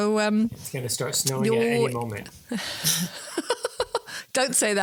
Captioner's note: laughs